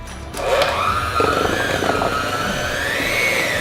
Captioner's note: mixer whirring